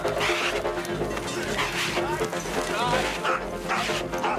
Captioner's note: bull snorting